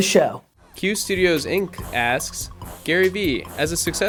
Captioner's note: voiceover